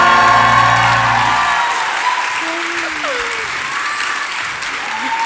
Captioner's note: audience cheers and applause